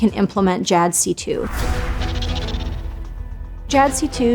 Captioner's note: epic music; air whooshing